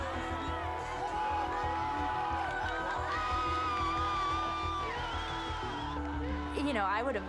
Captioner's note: crowd cheering